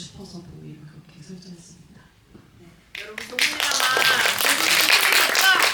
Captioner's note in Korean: 박수